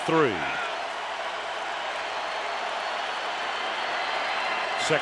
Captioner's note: cheering